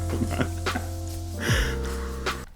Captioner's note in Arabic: موسيقى هادئة; يضحك; موسيقى هادئة